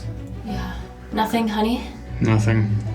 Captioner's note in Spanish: suspira